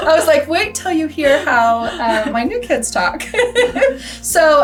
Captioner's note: laughs